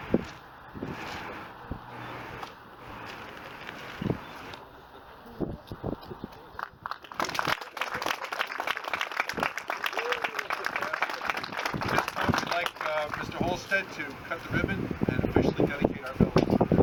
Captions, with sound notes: (Applause) At this point, We'd like Mr. Halstead to cut the ribbon, and officialy dedicate our building.